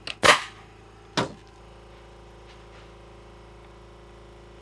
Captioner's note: nail gun shooting